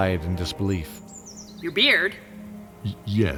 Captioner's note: surprised